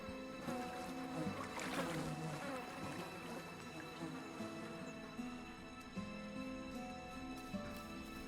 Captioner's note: water ripples